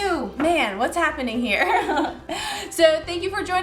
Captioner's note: laughs